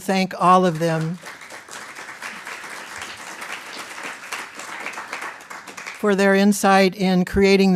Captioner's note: applause